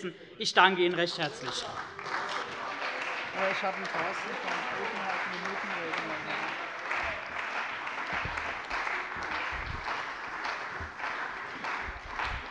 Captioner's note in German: Beifall bei der CDU und dem BÜNDNIS 90/DIE GRÜNEN